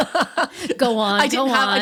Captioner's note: laughs